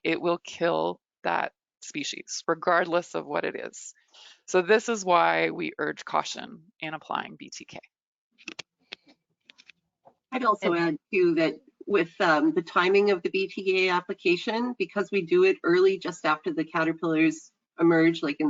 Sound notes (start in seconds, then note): none